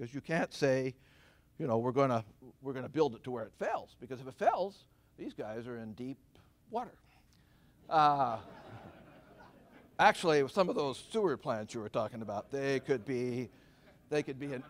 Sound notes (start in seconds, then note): 8.1 laughter